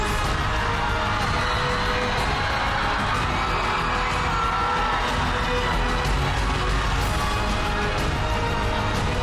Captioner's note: audience cheering; suspenseful music playing